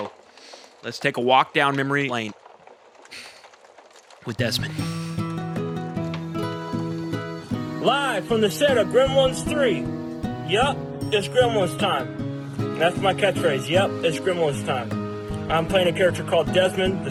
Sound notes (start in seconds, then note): 4.5 exhales